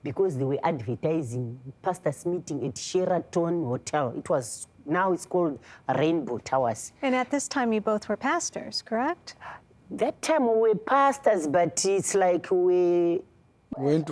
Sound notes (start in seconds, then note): none